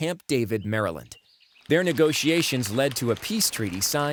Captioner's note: applause